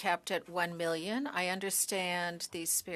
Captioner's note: speaking in French